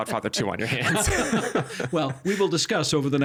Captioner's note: both laughing